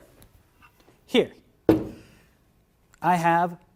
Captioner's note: tube thudding